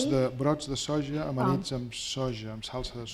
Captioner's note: speaking spanish